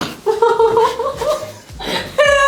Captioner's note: laugh